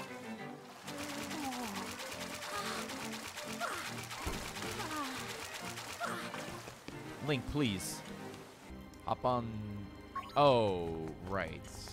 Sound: sexual swimming noises

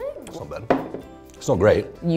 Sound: glass thuds

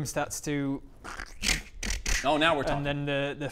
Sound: room morphing noises

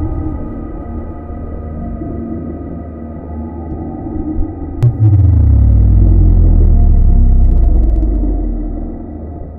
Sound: dark sound effects

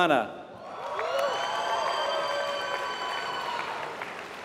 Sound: applause

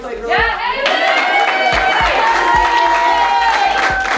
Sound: team cheering

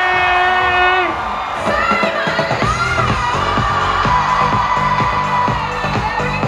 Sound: crowd cheering to performance

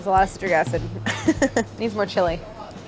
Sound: laughs

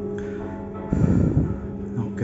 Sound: heavy breathing

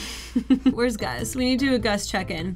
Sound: laughs

